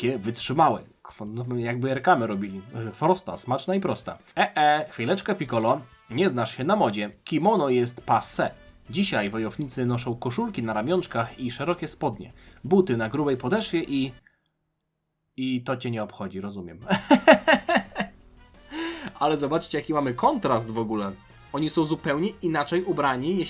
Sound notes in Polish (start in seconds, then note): 16.9 śmiech